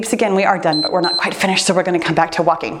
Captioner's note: timer beeps